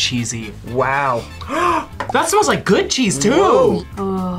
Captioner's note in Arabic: شهقة